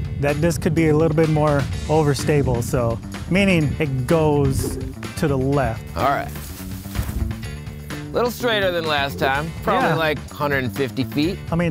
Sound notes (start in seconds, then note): 6.8 clothes rustling